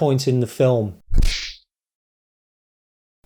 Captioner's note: kung Fu Sound